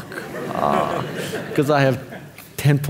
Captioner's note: audience laughing